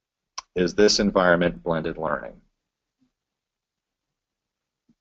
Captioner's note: pause